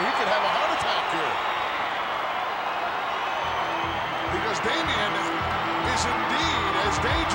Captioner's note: applause